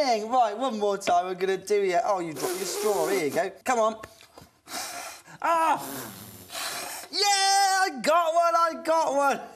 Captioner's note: puf puff